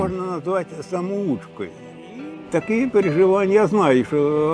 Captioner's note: Russian spoken audio